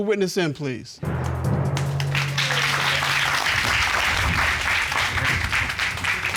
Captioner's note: applause